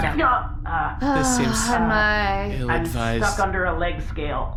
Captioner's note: sighing